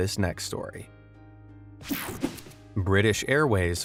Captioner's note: gentle music; graphic whooshes